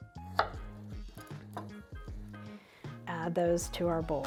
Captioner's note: knife clacks